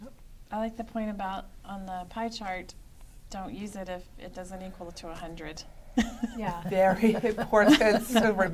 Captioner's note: laughter